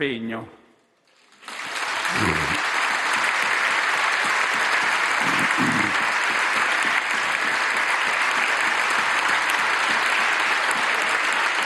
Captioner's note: super roar of applause